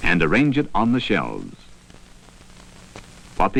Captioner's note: buzzing